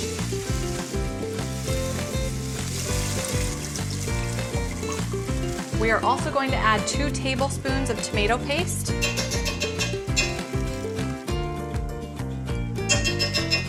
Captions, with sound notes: (upbeat music continues) (broth glugs) We are also going to add two tablespoons of tomato paste. (spoon bangs) (upbeat music continues)